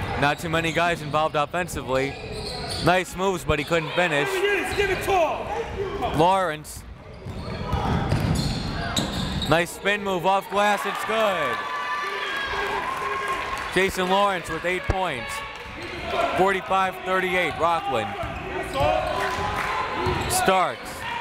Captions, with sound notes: Not too many guys involved offensively. Nice moves but he couldn't finish. Lawrence nice spin move off glass, it's good! (crowd cheers) Jason Lawrence with eight points. 45 - 38, Rockland Starks